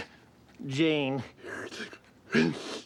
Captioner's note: yawning